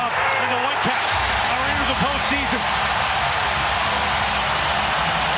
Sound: cheering and Applause

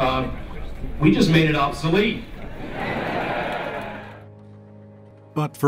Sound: crowd laughing

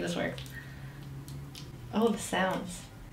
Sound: butter Squishes

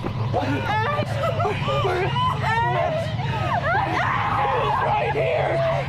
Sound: screaming; shouting

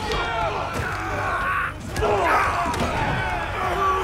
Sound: shouting

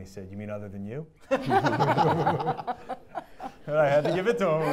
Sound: audience laughing

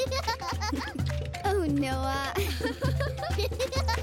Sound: giggles; giggles; laughing

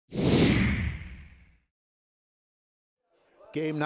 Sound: whoosh

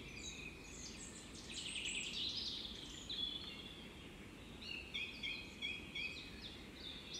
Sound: birds chirping, no music

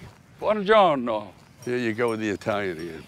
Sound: speaks Italian

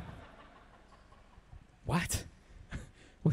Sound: audience laughs

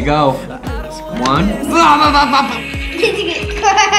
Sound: gargble sprayed in face

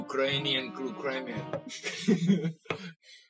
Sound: laughter

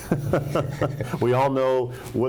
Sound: laughs

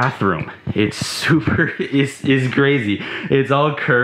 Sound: chuckling

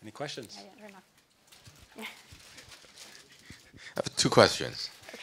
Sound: audience member speaking softly

